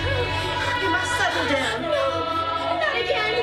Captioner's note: Marley gasping